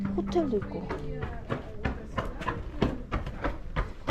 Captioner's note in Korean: 누군가가 뛰어오는 소리